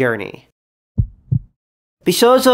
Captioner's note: heart throbbing sound effect